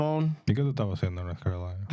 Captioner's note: speaking In Foreign Language